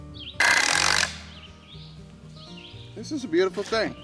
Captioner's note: birds chirping; gently music; rattling